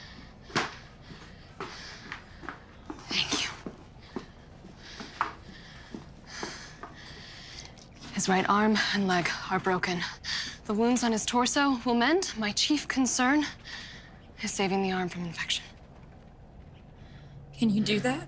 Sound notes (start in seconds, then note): 0.4 footsteps